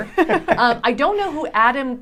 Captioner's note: laughing